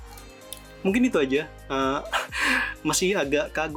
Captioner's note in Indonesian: tertawa